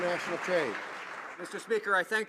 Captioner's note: some Applause